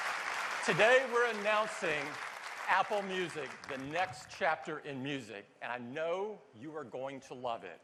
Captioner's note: cheers and applause